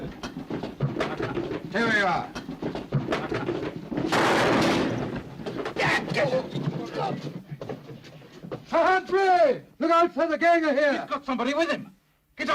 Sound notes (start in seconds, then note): 0.1 footsteps scrambling; 4.1 gun fires; 5.6 shouting & sounds of struggling; 7.4 sounds of struggling